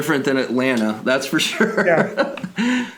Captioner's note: laughs